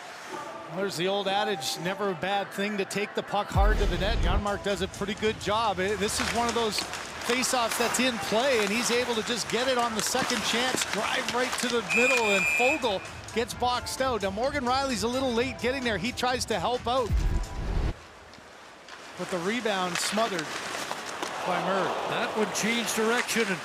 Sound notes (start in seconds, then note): 8.6 whistle blows